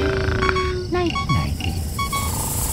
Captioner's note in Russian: бип-бип